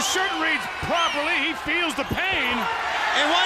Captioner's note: crowd cheering